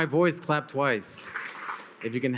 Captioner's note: attendees clap